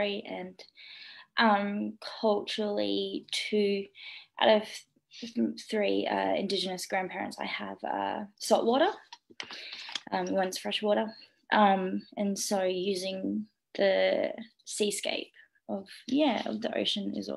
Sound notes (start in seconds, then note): none